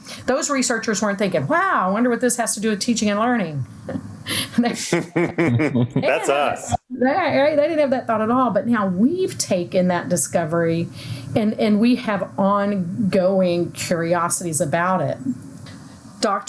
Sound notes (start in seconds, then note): 4.7 laughing